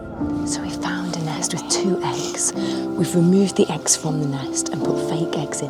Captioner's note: whispers